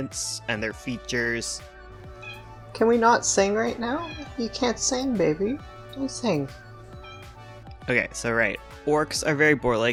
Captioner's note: meowing